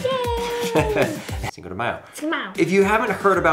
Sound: laughs

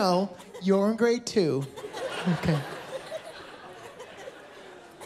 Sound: laughter

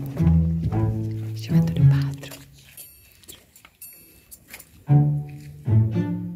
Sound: wispering

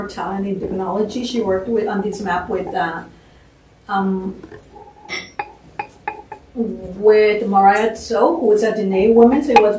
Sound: non-english

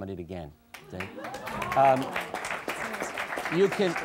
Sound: audience applause

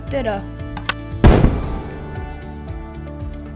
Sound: boom!

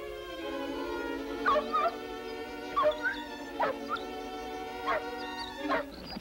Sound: Shep barking and whining

